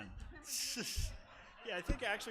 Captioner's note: laughing